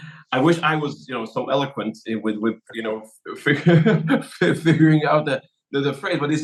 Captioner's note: laugh